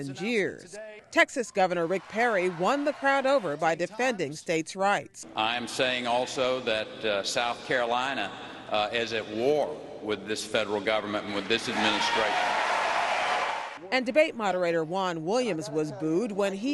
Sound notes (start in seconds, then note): 14.6 cheering and applause